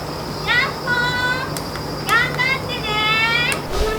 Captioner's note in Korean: 딸깍 딸깍